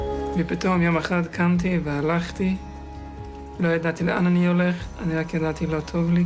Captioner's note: young man speaking in foreign language